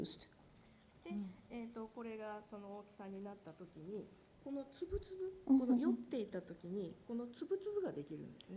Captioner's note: speaking japanese